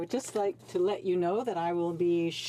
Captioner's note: speaking French